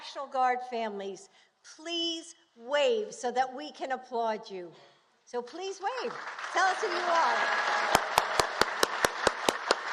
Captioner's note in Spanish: Aplausos